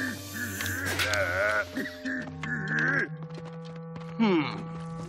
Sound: giggling

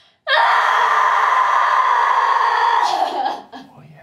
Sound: screaming loudly

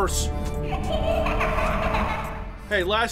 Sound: child's ghostly laughter

